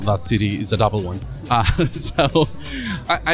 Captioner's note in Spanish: risas